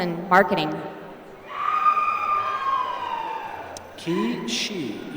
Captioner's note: applause